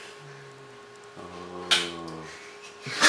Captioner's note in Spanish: risas